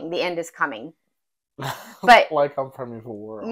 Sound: laugh

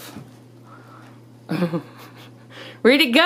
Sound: laughing

